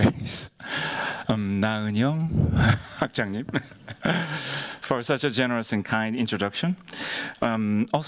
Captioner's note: korean